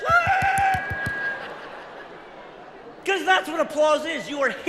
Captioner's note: claps hands